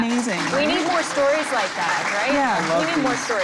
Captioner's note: applause